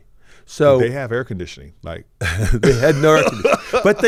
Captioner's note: chuckles